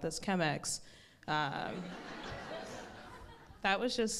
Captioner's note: crowd laughs